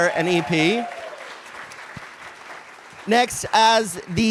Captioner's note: cheers and applause